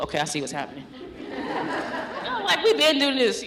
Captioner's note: laughter